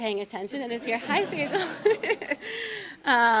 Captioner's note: audience laughs